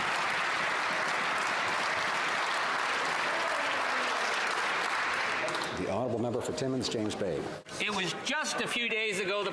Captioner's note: some Applause